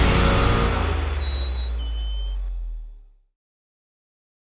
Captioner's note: bird whistling